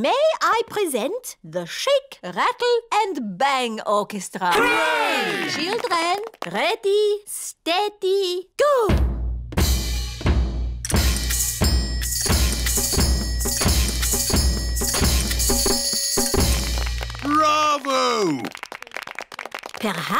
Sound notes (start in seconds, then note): 9.3 playing music rhythmically; 16.3 applauding